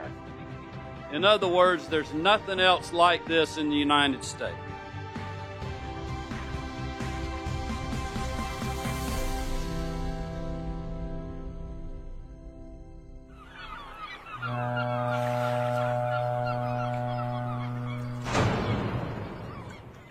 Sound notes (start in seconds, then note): 7.7 seagulls and Ship Horn Sound